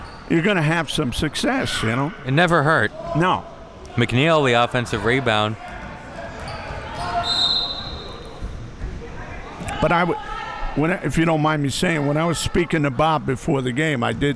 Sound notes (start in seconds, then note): 7.0 whistle blowing; 7.1 spectators shouting